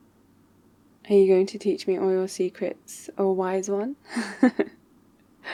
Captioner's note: laughs